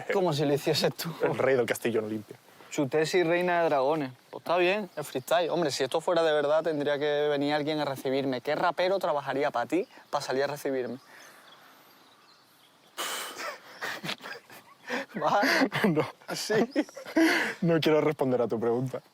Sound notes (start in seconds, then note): 12.9 sighs; 13.0 laughs